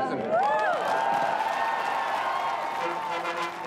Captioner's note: applause